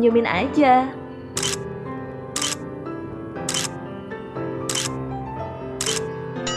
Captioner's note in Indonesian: cekrek